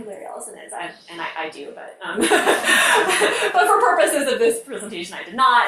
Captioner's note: laughs